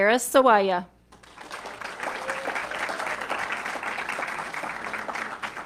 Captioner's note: audience clapping